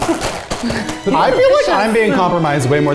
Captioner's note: bags rustling